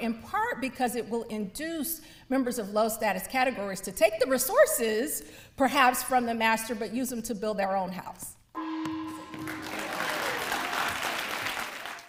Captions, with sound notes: in part because it will induce members of low status categories to take the resources perhaps from the master, but use them to build their own house. (gong rings) (audience applauds)